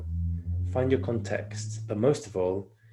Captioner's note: engine roaring